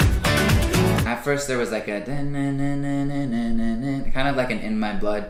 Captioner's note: vocalizes